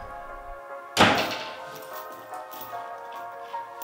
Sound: door slams shut

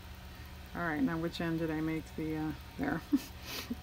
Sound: laughs

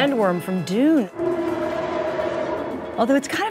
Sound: sand worm bellowing

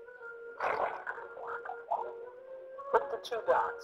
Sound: bubbles popping; voiceover

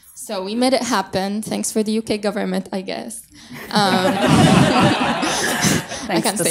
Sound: audience laughs

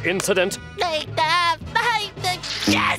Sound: stammering

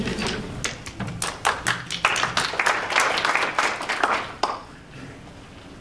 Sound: applause

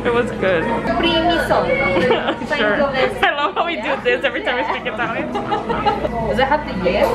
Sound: read in italian

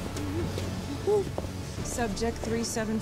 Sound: whimpering

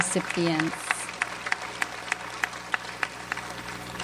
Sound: audience applauds

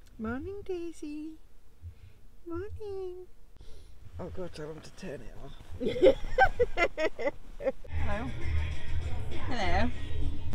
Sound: laughing

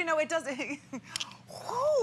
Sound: laughter

